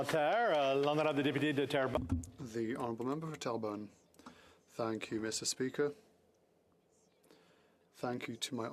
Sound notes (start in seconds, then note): 0.0 some Applause; 4.6 speaking French